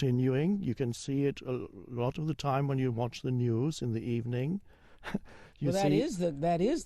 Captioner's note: chuckles